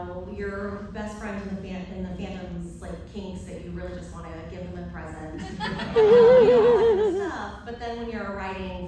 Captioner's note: laughter